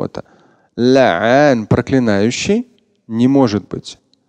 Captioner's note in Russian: Говорит на арабском